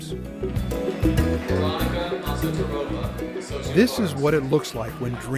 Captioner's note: man announcing names of graduates